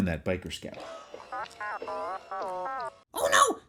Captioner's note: Astromech droid beeps